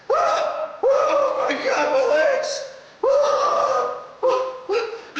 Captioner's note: grunting